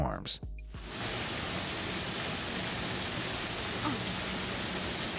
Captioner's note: water gushing